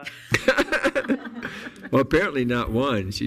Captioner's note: board members laughing